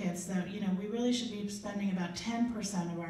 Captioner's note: none